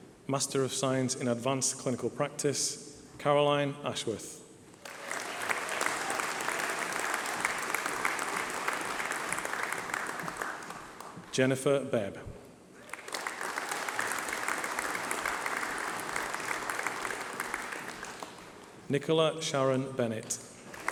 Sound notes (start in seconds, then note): 4.8 applause